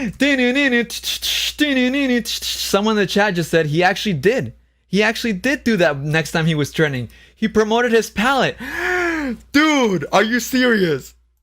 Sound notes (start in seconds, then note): 0.1 sings; 8.6 gasps